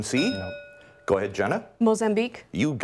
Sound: bell rings

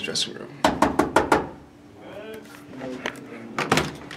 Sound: knocks

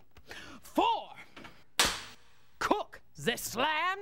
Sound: cracks pointer

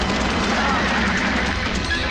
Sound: brakes squeal

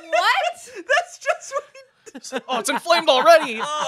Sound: laughs

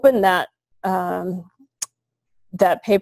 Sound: pause

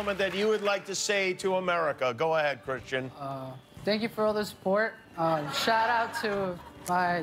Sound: cheers and applause

